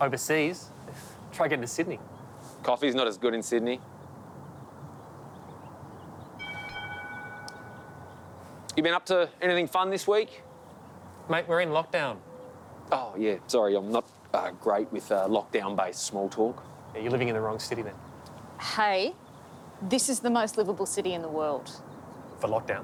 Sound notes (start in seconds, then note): 6.4 tram bell dings